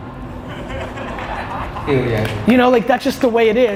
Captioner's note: audience laughs